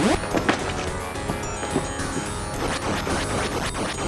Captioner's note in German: Schritte